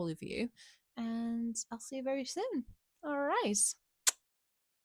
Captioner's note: kisses